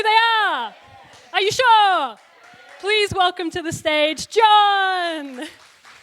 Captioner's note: applause